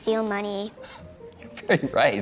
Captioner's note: laughs